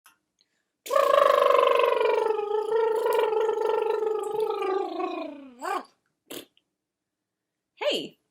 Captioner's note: lip trills